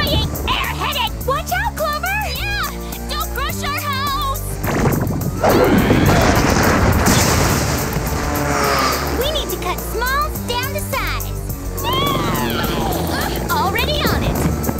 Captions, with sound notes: Annoying, air-headed-- Watch out, Clover! Yeah! Don't crush our house! Ah! [boom] We need to cut Smalls down to size.